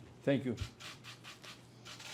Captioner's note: speaking English